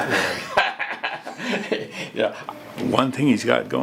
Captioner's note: laughing